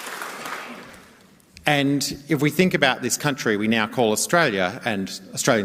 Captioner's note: applause